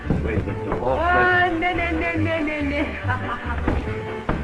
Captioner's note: laughs